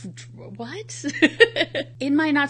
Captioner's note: laughs